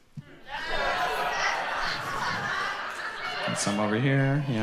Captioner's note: audience responds and laughs